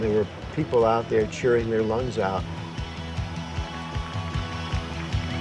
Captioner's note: crowd cheering